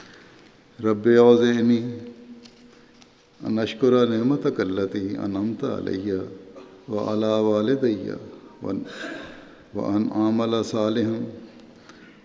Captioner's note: Arabic